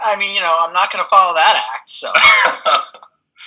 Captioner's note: laughs